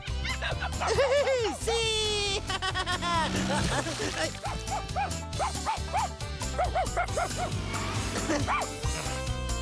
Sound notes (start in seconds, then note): 3.4 splat!; 5.3 barking